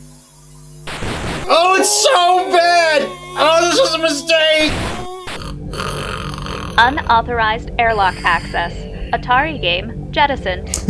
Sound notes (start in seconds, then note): 5.0 snoring